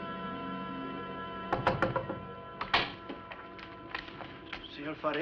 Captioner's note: knocking on door